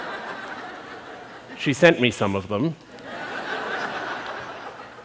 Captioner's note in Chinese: 笑聲; 笑聲